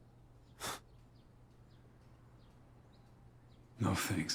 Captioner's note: Kent scoffing